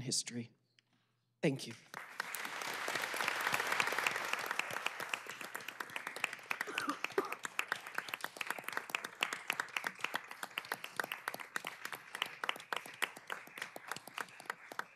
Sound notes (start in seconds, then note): 4.3 applause